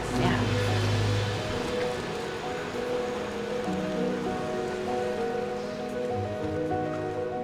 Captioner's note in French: eau qui coule; musique entraînante